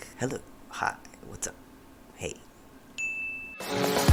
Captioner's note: ting!; jazzy music